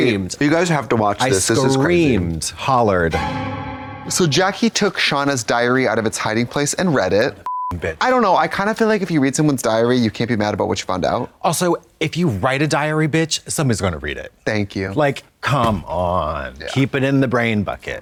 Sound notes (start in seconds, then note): 3.1 eerie tone; 7.4 beep